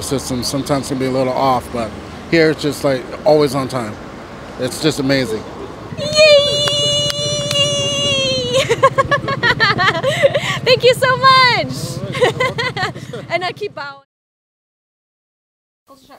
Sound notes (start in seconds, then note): 8.4 cue the cute giggle; 12.1 more cute laughing